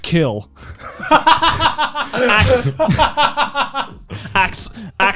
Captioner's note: laughing